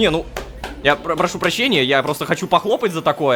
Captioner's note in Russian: Хлопки